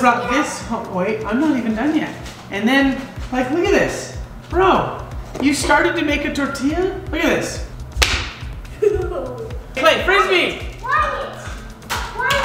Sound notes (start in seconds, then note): 7.9 whacking